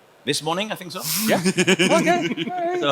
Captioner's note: panelist laughs